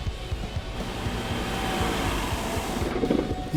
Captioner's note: engine sputters